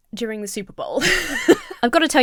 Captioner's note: laughs